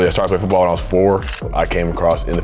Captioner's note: camera shutters